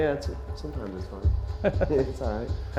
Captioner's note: laughs